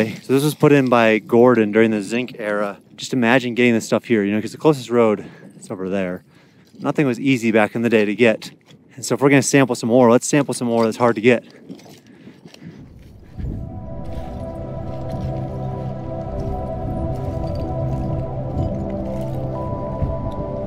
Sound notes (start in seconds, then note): 11.9 debris rustling; 13.1 upbeat instrumental music